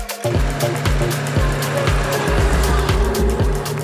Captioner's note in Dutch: geluid van motor